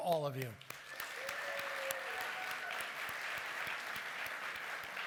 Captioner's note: applause